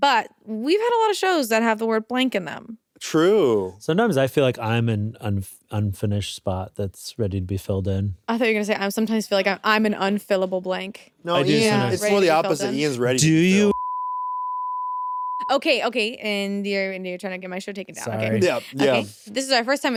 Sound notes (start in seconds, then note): 13.6 beep